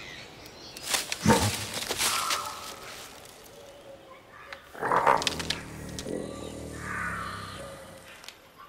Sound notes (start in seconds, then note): 0.7 rustling; 4.1 woodland noises